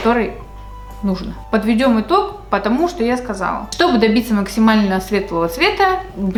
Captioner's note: something has fallen